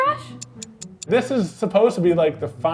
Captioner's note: clock ticks